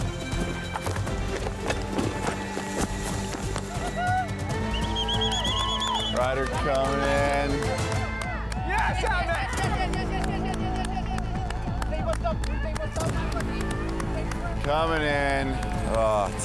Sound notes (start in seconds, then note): 4.6 all cheering; 7.6 upbeat music